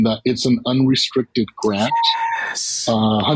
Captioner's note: whisper cheers